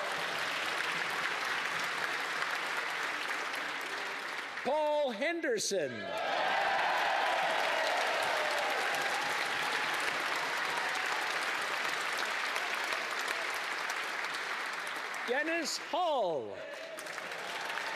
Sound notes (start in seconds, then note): 0.0 applause; 4.4 applause; 10.1 cheering and Applause